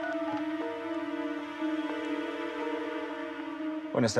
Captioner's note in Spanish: sonido al marcar